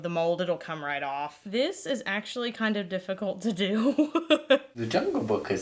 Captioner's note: laughs